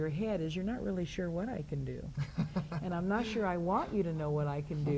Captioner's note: laughs